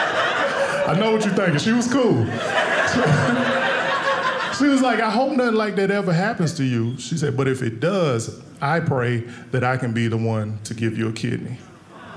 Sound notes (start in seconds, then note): 0.0 audience laughing; 2.5 audience laughing